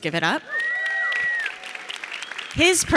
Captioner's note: audience cheering